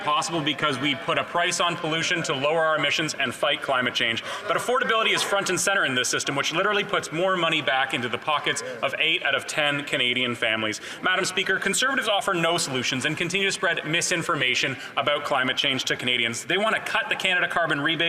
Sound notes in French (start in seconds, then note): 1.1 voix de l'interprète